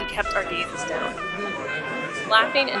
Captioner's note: outside partying